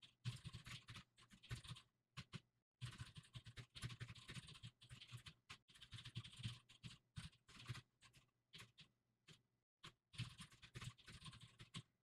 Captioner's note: typing sounds